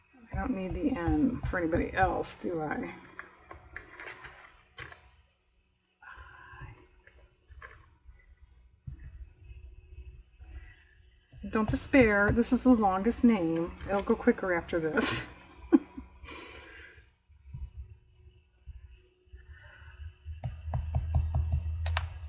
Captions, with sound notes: i don't need the "n" for anybody else do i? don't despair, this is the longest name, (laughs) it'll go quicker after this